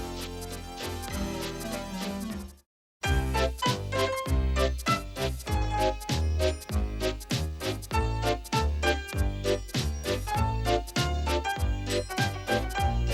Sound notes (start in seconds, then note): none